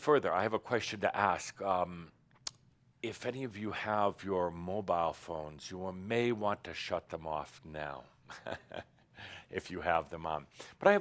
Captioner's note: he chuckles